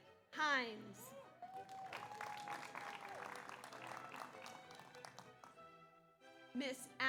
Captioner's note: audience cheers; audience applauds